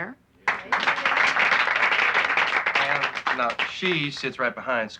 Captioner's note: applauding